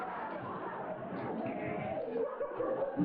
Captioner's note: laughter